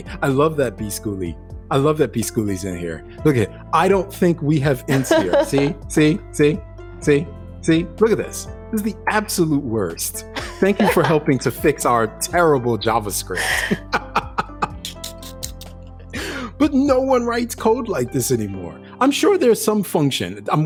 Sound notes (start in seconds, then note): 13.3 both laughing